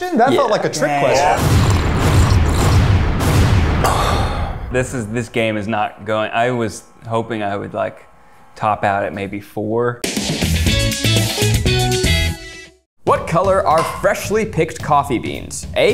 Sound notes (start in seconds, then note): 1.1 slurping sounds; 1.3 scores thud dramatically; 10.2 bright guitar transition